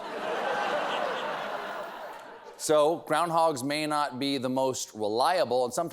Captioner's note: laughter